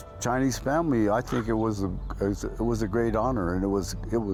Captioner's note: crow cries